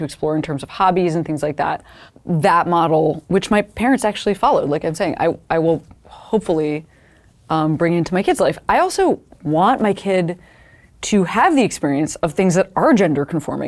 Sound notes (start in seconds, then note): none